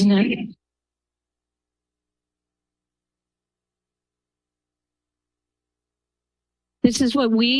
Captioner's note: silence